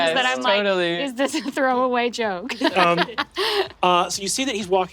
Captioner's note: laughs